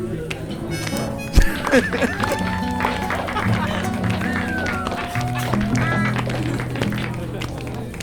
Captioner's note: clapping and laughing